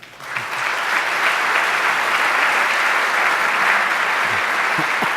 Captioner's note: audience applauds